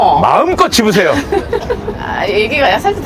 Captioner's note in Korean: 웃음